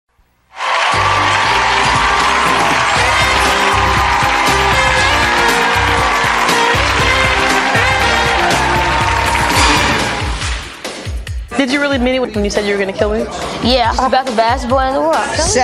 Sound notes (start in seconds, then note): 0.7 audience applauding; 5.3 upbeat music